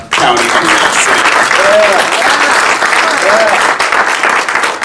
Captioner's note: attendees applauding